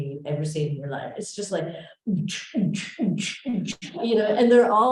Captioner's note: imitating club music